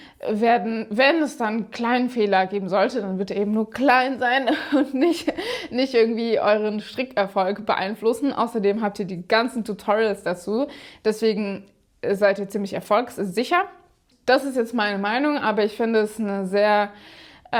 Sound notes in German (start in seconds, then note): 4.4 gelächter